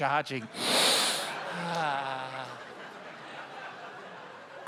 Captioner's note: sniffs deeply